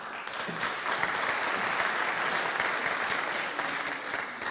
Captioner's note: audience applauding